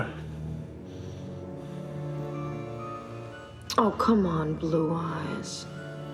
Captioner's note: inhales